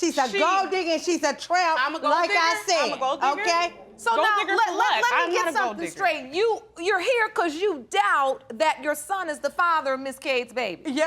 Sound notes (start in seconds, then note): none